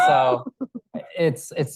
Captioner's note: audience laughing